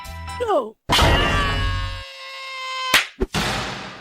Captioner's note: Donut screams